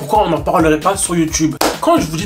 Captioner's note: clap